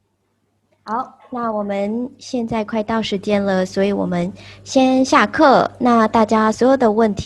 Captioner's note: speaking in Chinese